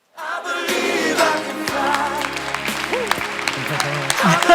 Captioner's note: applause